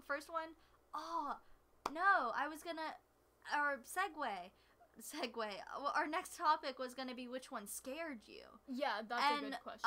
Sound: hand clap

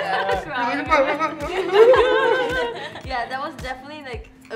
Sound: laughs

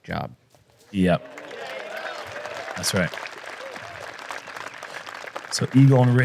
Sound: applause

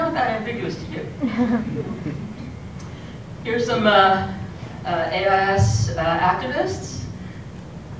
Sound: laugh

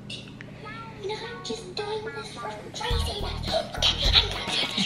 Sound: whispering

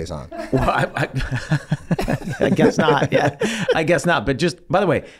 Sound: Glen chortles

